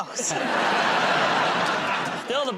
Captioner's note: laughter